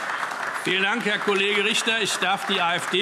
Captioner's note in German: Beifall AfD